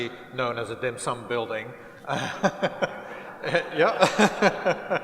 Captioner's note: laughter